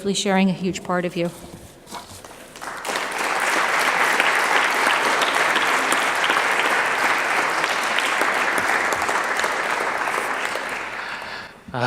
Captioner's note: clapping